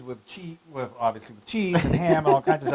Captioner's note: laugh